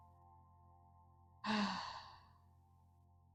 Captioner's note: sigh